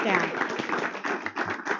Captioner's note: applause